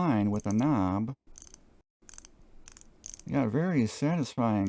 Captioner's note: clicking sound